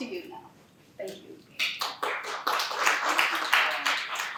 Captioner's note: clapping